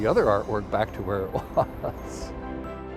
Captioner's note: chuckles